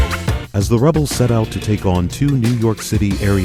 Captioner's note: voiceover